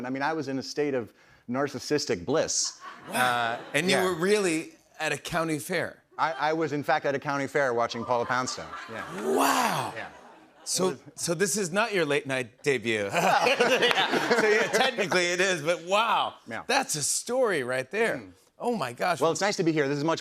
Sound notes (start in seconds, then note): 13.0 laughter